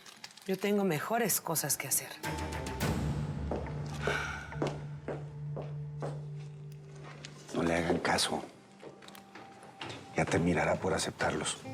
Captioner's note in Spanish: exhalan